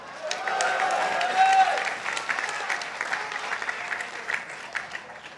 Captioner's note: participants applauding